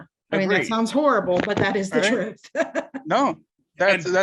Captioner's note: laughs